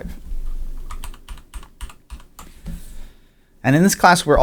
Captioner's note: keyboard clicking